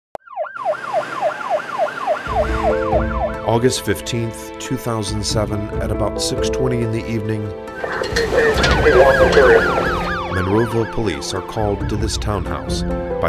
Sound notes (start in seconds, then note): 0.2 siren wailing; 7.7 siren wailing; 7.8 police on radio